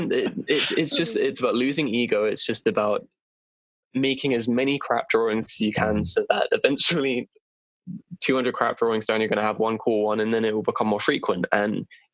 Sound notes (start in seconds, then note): 0.0 laughter; 6.3 giggle